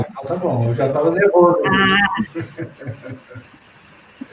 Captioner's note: laughter